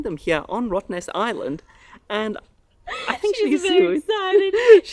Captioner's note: laughs